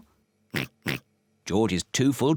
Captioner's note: oinking